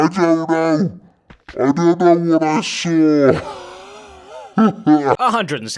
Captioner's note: laughs